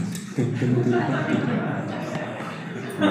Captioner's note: audience Laughter